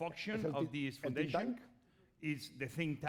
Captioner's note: speaking spanish